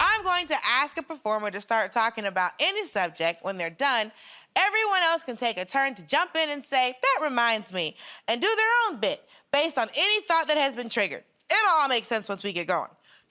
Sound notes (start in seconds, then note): none